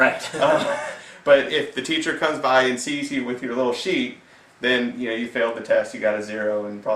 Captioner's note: laughs